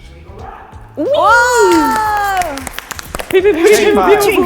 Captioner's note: all cheering